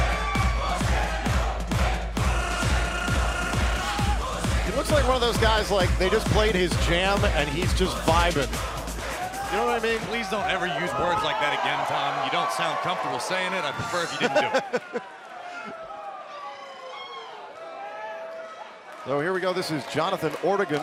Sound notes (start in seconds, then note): 0.1 crowd cheering; 16.2 crowd cheering